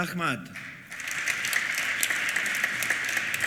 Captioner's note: applause